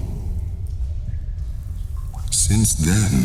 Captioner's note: cave noises